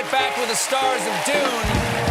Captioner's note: applause